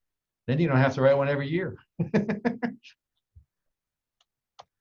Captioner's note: laughs